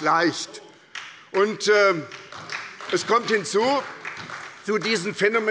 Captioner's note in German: Beifall bei der SPD